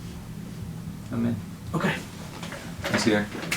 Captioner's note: voiceover